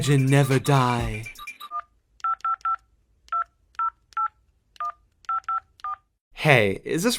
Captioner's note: dialing phone number